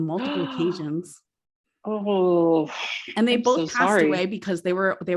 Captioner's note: gasps